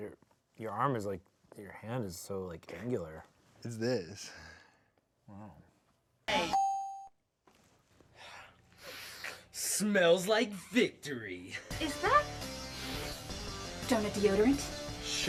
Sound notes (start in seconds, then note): 6.7 bell dings; 12.7 intense music